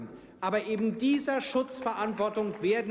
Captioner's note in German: Beifall